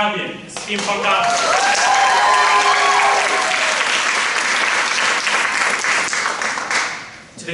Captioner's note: applause